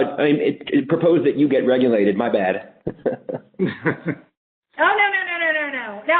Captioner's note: laughs